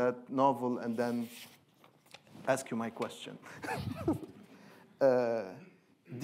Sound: chuckling

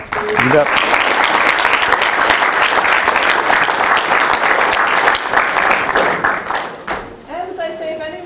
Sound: applause

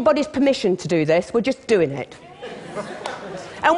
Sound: laughter

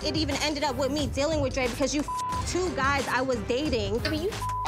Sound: beep; beep

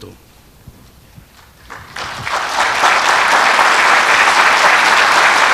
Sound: audience applauds

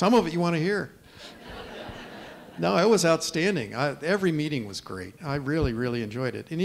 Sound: laughter

